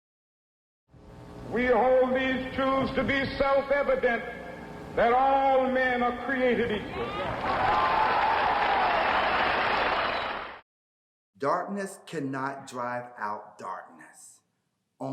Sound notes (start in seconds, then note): 6.9 crowd cheers & claps